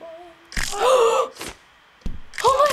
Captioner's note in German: Knochen-Snap; Scharfe Keuchen; Blut spritzt